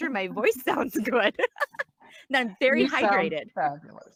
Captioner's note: laughs